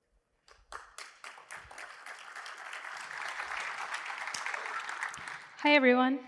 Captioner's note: applause